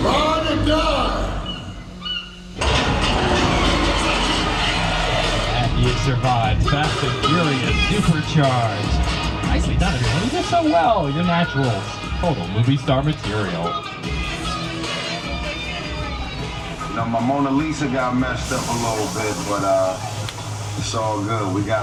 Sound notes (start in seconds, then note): 1.2 bird squawks; 2.7 car thuds; 2.7 engines roar; 6.2 upbeat music plays